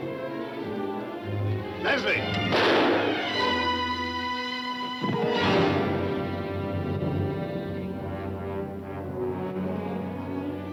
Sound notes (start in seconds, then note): 1.6 dramatic music; 2.4 gun firing; 7.9 somber music